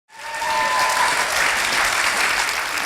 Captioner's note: applause